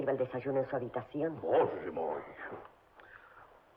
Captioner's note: Russian